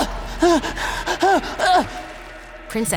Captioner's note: panting